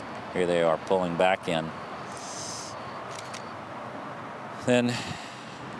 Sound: sighs

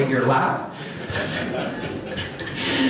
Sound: audience laughs

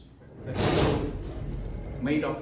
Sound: slamming

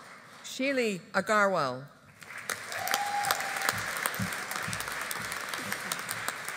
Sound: audience applauding

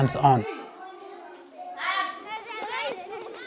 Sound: children playing

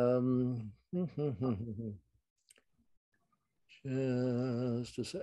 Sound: professor hums

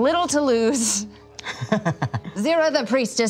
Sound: laughter

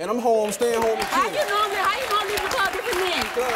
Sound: applause

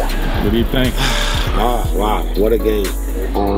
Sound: sighs

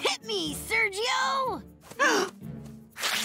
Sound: gasping

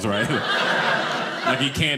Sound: audience laughing

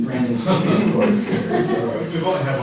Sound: laughter

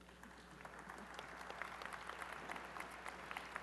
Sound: applause

